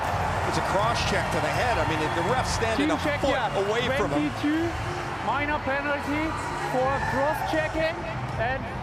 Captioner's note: crowd NOISE